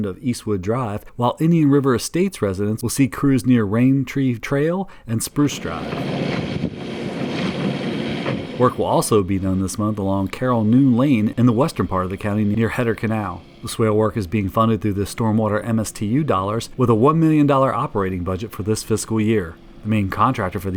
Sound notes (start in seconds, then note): 5.9 engine roaring